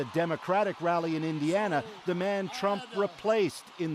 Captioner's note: cheers and Applause